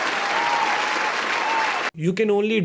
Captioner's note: applause